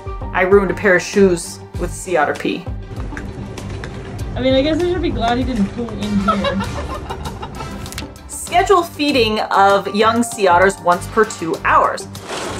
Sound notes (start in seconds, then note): 2.8 background music; 6.0 laughing; 6.4 background music